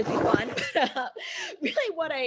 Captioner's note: laughs